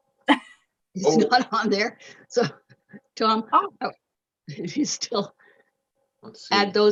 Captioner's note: chuckling